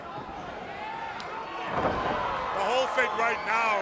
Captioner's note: crowd cheering